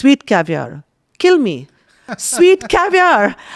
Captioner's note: laughs